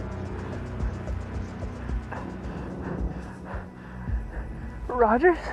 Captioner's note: fast breathing